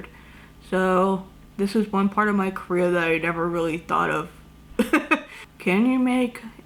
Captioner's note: laughs